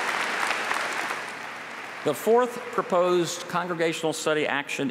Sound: applause

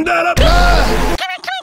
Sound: Bear yells

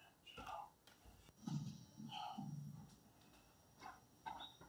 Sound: wood creaking, foosteps

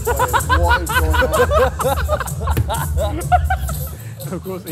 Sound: laughter

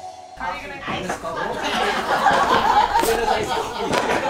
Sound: talking and laughing

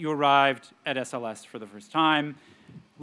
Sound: none

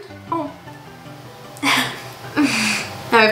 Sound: laughs

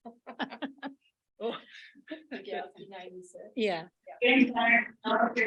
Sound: laughs

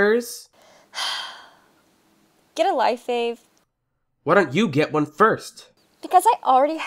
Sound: sigh

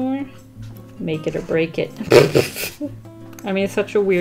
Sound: laughs

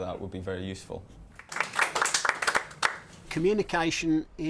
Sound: applause

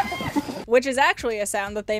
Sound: hyena laughter

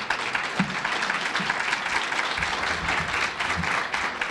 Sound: audience applauds

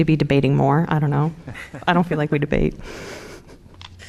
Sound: laughter

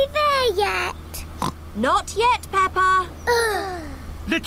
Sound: oinks; both sigh

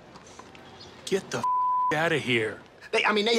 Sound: beep

